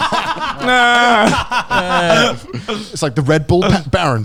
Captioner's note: laughing loudly; yelling